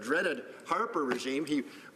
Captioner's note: some applause